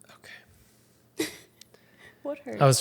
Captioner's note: chuckles